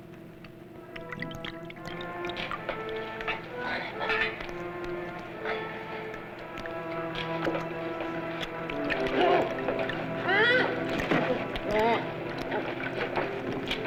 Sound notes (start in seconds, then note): 0.2 intriguing music; 11.1 groans